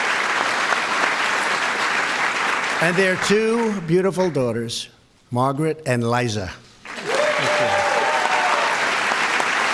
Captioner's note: applause